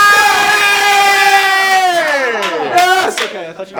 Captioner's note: red team cheers